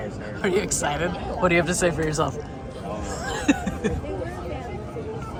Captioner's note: laugh